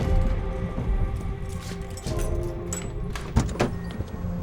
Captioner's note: suspenseful music continues; keys jingling; car door lever thudding